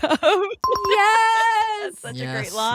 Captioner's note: bell dings